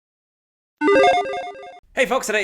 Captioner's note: video game sound effect